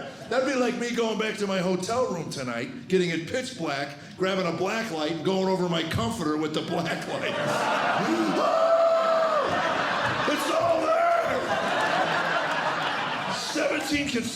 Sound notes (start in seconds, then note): 8.0 shrieking; 11.7 laughter